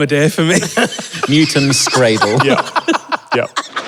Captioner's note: wheezing